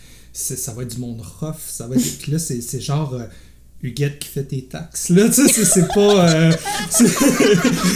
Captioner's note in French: rires